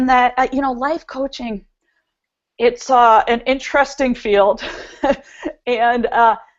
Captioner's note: chuckles